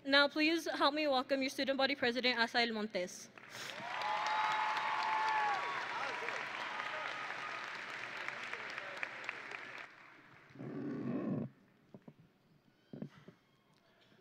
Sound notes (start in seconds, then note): 3.6 audience and graduates cheering; 8.6 audience and graduates applauding